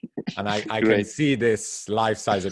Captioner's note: laughs